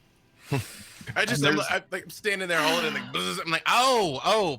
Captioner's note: buzzes